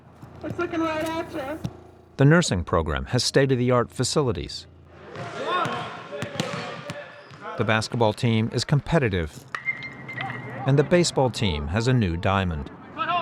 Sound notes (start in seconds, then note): 4.2 people talking in background